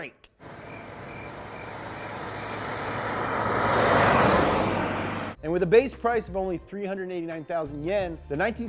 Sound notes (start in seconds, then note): 0.5 crickets chirping